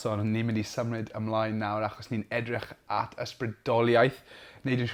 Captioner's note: speaking Welsh